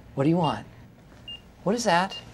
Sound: device beeping

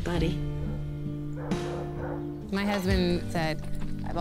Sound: dog barks

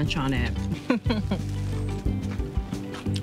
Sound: chuckles

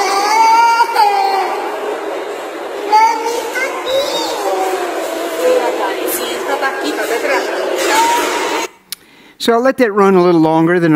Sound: cries

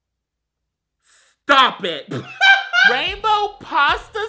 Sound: laughs

